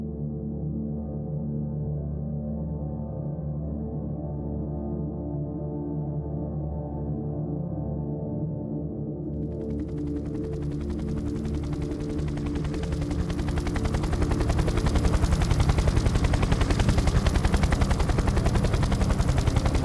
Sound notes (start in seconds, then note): 10.3 helicopter blades whirring